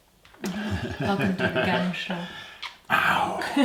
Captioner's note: laughing